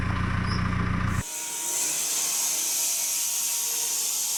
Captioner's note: saw whirring